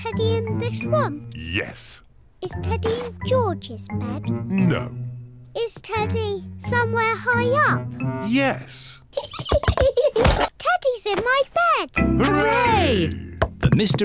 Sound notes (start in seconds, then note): 9.1 giggles